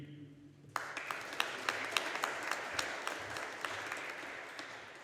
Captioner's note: audience applauding